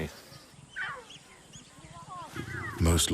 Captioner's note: birds chirping; cubs squeaking